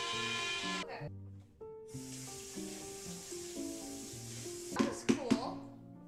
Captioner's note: blender Whirring; soft Music